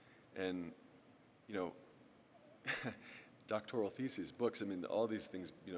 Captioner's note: laughs